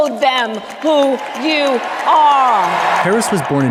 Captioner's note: audience applauding